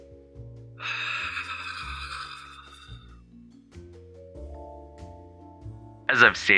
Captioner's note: sigh that sounds like whatever the opposite of purring is